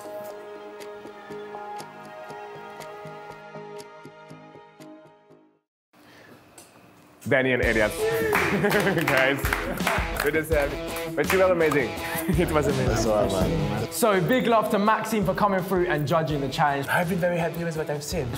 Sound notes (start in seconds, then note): 0.2 tense music; 8.2 clapping